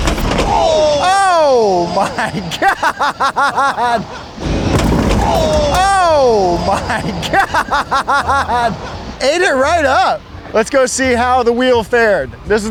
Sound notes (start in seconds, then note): 1.0 crowd; 5.8 crowd